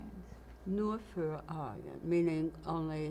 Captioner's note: german